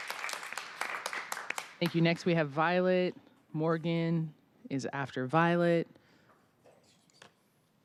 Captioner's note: applause